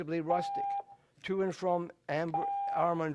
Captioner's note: tone